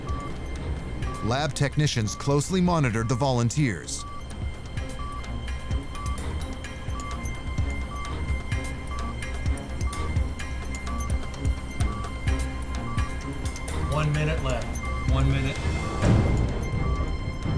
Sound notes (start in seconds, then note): 5.9 beeping continues; 10.7 music tension intensifies